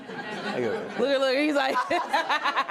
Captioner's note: laughs